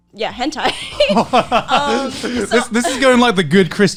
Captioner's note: laughing